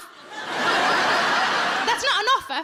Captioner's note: audience laughs